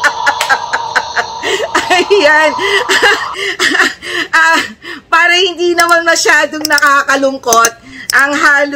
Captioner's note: laughter